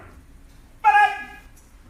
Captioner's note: enthusiastic shouting